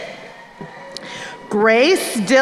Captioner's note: crowd cheering